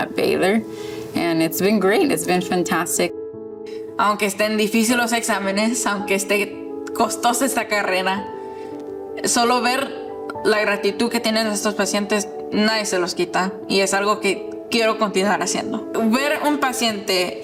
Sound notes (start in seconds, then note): 2.9 speaking Spanish